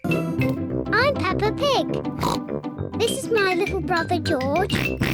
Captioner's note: oinks; oinks